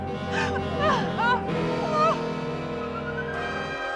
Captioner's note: cries